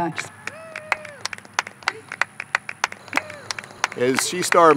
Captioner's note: applause